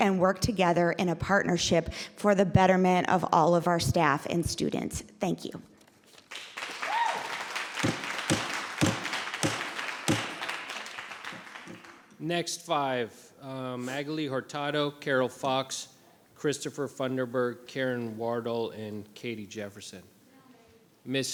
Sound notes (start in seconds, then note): 6.2 audience applauding; 10.0 gavel banging